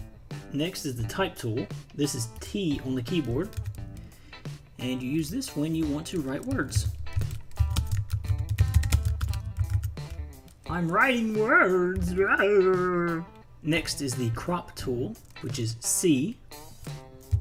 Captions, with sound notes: Next is the type tool. This is "T" on the keyboard. And you use this when you want to write words. (Funny Voice) I'm writing words! Next is the crop tool which is "C".